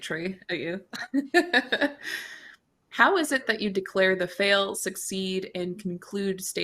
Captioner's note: chuckles